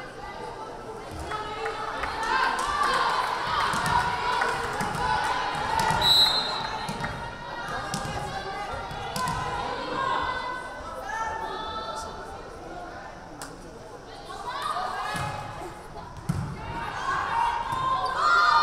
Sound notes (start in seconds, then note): 2.3 team members and crowd yelling; 6.0 whistle blaring